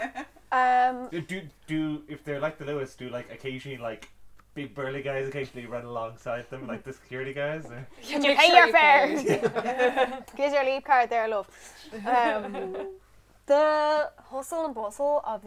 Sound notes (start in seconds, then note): 9.0 laughter